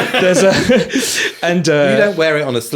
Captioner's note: laughing